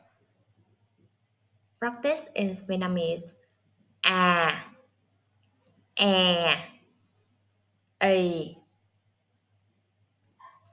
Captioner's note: Vietnamese